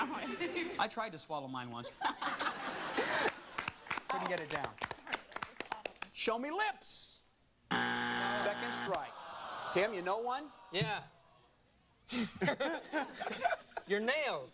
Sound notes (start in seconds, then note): 7.7 buzzer; 12.2 laughs